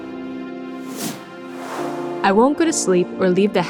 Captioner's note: graphics whooshing